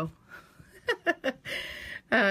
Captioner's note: laughter